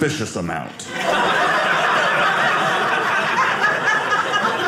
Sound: audience laughing

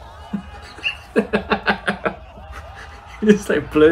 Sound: chortles at exploding man

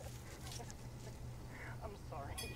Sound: rustling; laughing

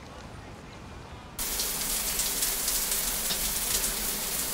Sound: water running

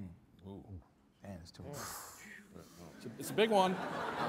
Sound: exhales

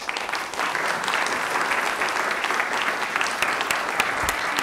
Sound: audience applauding

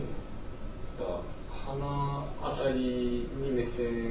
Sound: speaking japanese

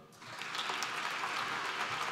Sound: applause

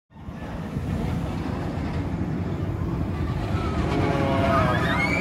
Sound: roller coaster rumbling

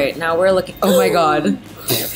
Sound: gasps

